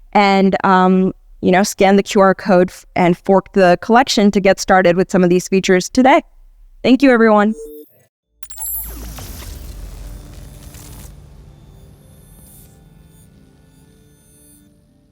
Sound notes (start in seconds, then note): 7.3 high pitched beeping